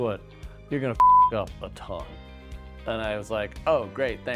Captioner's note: beep